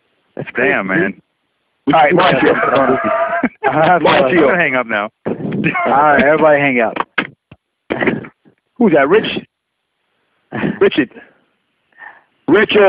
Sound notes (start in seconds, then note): 5.3 laughing